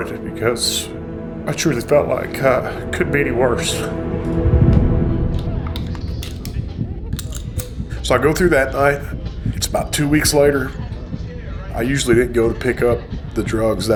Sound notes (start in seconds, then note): 7.1 clicking; 7.2 gun cocking